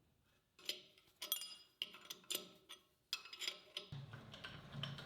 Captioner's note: spanner clinking